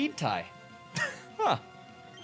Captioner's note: chuckles